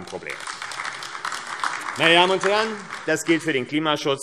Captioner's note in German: Beifall AfD